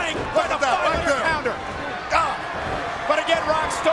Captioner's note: overlapping chatter